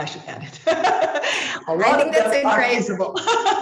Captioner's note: laughs